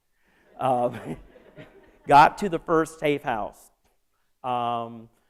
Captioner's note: laughter